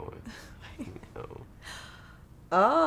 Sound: Cynthia Giggles

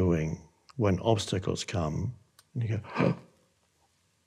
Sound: gasps

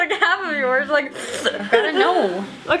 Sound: slurping

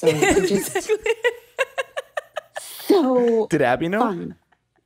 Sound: laughs

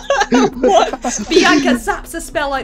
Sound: laughter

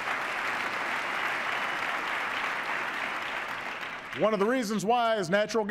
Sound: applause

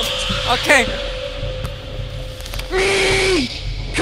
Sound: intercom starts up

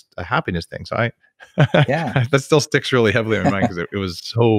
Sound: laughs

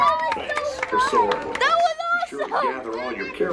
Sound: family claps and cheers

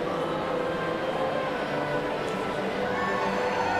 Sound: cheering

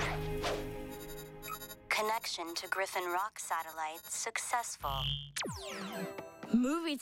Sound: beeping

